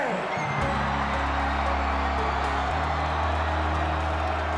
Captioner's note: crowd cheering